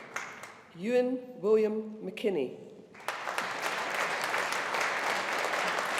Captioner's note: audience applauding